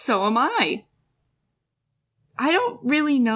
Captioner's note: silence